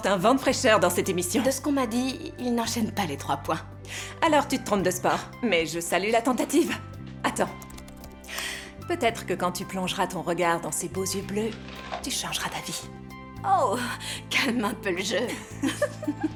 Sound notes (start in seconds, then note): 7.4 keyboard clicking; 15.3 laughing